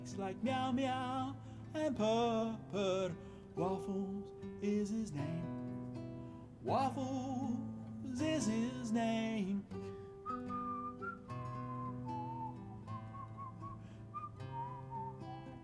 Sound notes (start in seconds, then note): 9.8 calm music continues; 9.8 whistling